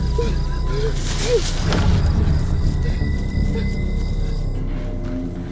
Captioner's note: Matt heavy breathing